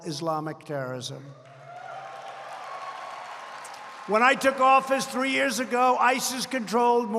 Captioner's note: applause